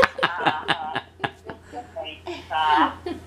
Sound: laughs

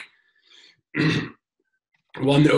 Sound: clears throat

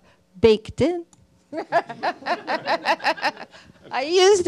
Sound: laughter

